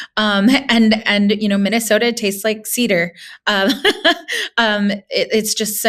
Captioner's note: laughing